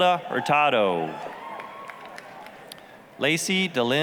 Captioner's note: applause, cheering